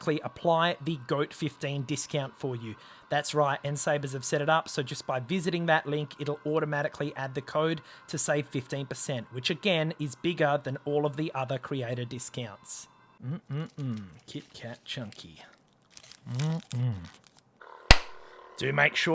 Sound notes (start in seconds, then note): 12.9 mmm mmm mmm!; 17.1 mmm mmm!